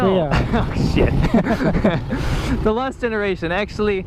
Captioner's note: both laugh